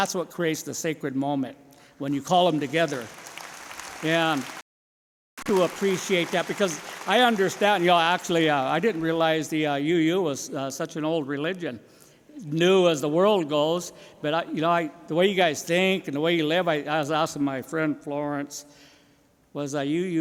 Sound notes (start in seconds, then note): 7.9 applause